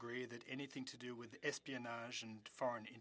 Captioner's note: speaking French